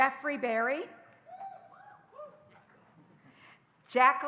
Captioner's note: audience cheering